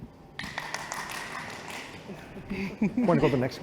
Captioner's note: applause